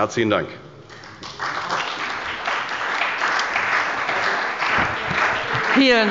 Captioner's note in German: Beifall bei der CDU und dem BÜNDNIS 90/DIE GRÜNEN